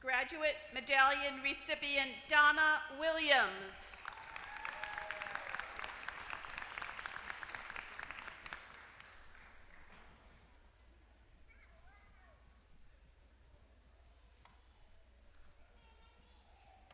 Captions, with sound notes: Graduate medallion recipient, Donna Williams. >> [APPLAUSE]